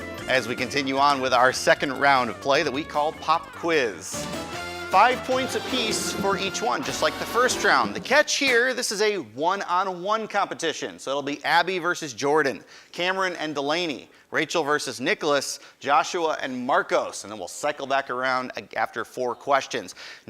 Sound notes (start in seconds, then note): none